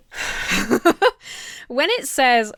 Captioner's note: laughs